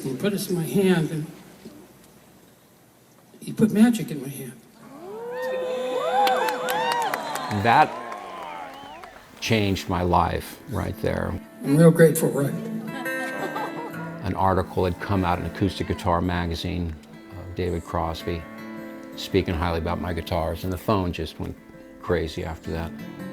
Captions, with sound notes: (cheering and applause) That changed my life right there. An article had come out in Acoustic Guitar Magazine of David Crosby speaking highly about my guitars, and the phone just went crazy after that.